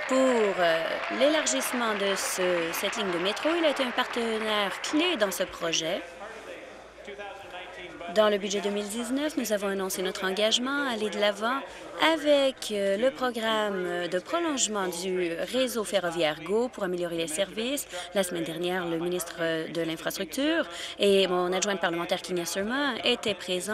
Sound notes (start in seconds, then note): 3.9 applause